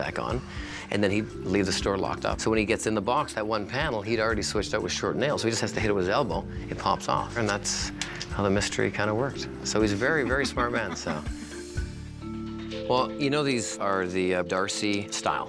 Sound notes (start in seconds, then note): 10.1 laughs